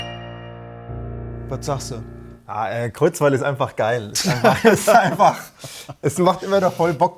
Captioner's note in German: gelächter